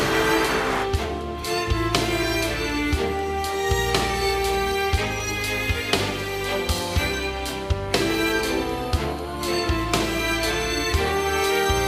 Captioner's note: applause